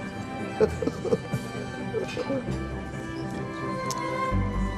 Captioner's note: laughs